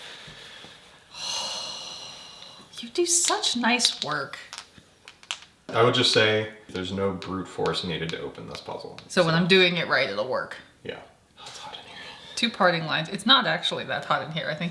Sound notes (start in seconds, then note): 1.1 gasping